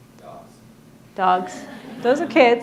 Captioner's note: audience laughing